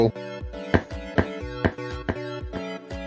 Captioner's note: stomping